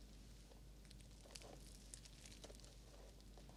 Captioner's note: rustling